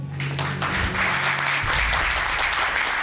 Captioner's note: audience applauding